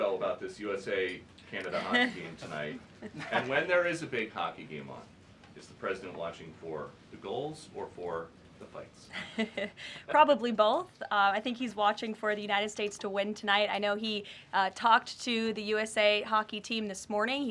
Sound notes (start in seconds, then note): 3.0 laughter; 10.1 laughs